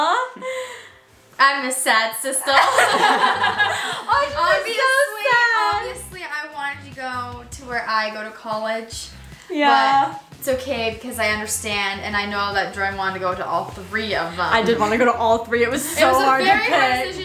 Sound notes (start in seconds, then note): 2.5 all laughing